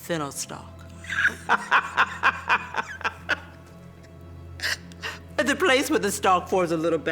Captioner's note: laughs